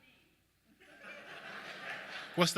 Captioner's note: audience laughing